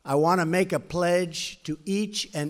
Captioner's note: none